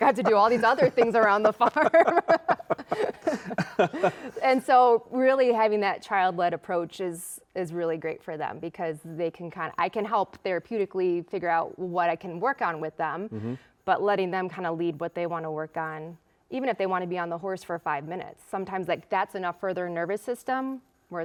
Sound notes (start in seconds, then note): 3.5 laughs